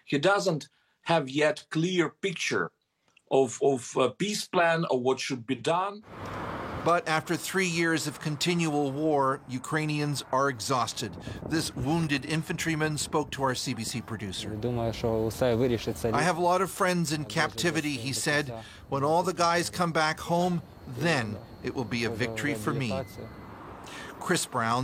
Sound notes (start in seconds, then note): 20.0 foreign language